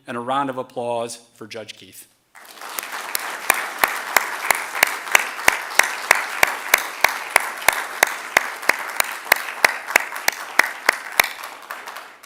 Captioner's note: applause